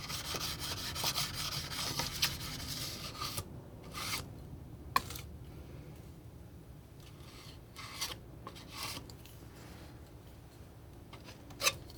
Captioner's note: scratching